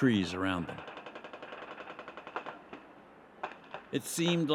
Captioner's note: machine gunfire